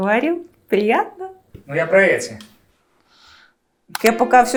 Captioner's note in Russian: Закадровый голос